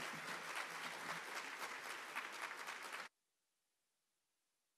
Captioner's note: applause